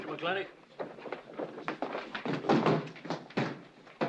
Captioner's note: bodies bustling through the door